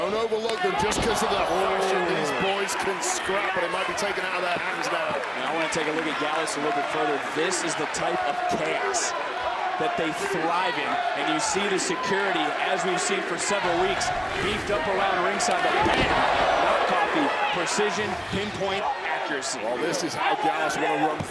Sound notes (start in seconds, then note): 5.6 crowd cheers; 12.5 crowd chanting "nxt"